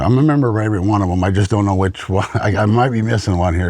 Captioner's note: laughs